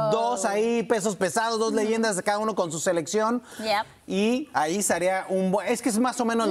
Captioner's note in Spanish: HABLAN EN INGLéS